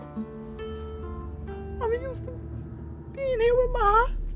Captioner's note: crying